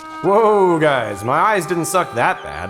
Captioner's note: Rudy Voiceover